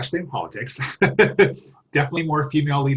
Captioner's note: laughs